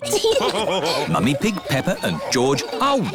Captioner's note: laughter